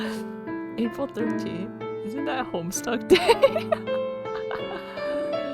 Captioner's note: laughs